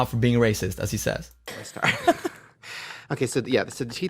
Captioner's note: laughter